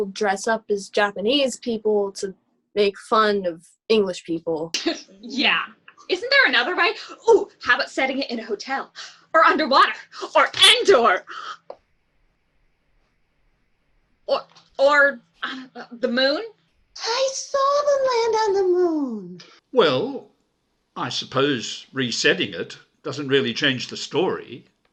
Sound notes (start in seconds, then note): 5.0 scoff; 14.4 stammers